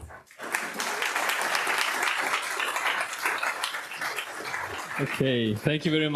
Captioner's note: audience applauding